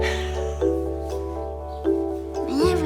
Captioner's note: laughs